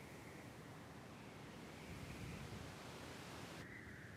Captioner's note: wind whistling